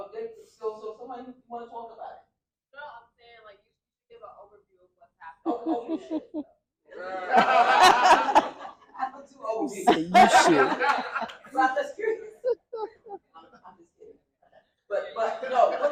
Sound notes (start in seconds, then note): 3.7 laughter